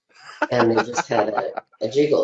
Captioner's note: laughing